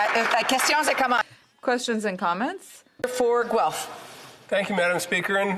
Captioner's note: some Applause